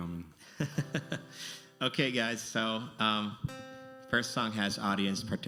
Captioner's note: laughs